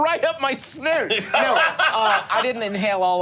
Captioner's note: laughing